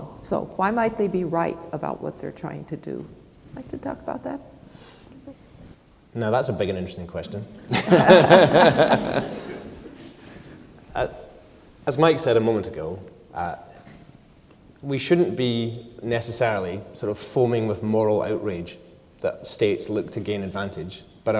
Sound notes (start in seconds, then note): 7.6 laugh